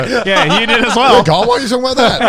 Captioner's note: group laughs